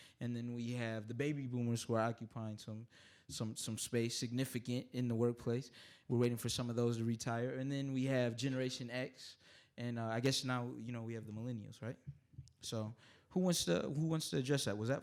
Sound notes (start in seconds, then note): none